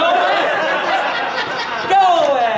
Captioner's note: audience laughing